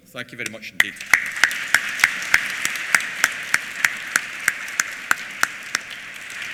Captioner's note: applause